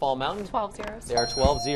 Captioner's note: bell dings